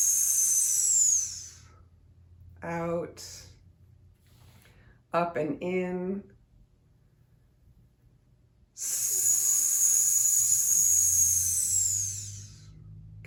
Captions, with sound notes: out, up and in, (hisses)